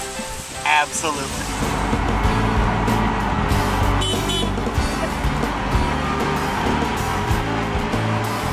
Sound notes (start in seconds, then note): 4.0 honks